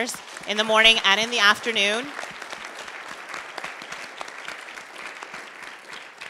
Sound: audience applauds

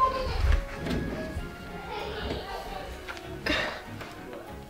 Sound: drawer slides open

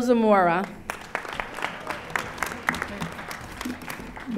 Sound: audience applauding

